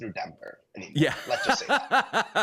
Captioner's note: laughter